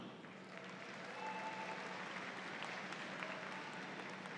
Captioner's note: audience applauds